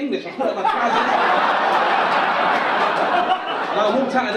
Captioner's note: audience laugh